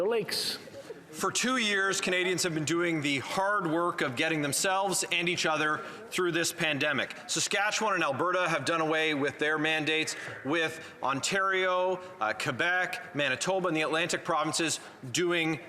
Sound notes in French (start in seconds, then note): 3.7 voix de l'interprète